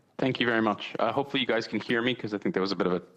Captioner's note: speaking French